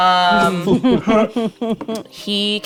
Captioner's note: laughing